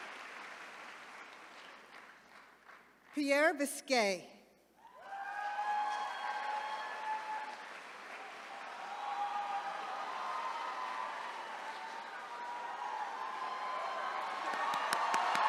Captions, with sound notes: Pierre Biscaye. (attendees cheering)